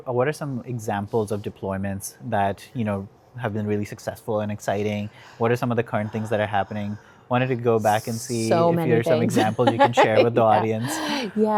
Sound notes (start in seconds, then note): 8.1 chuckles